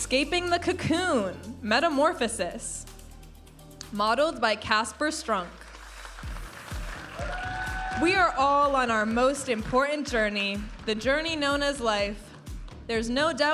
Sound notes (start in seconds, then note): 0.0 vibrant music; 5.6 audience applauding and cheering